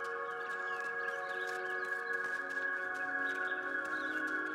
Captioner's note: gentle music; birds chirping